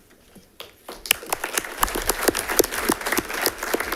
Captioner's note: audience clapping